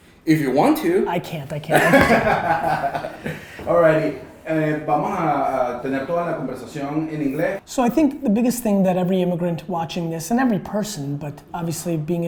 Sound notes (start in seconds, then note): 1.7 laughter; 5.6 in Spanish